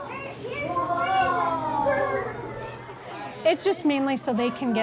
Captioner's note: kids chattering